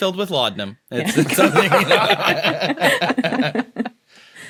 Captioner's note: group laughing